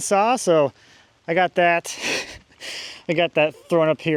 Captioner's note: chuckles